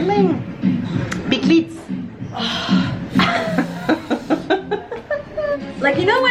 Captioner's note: laughs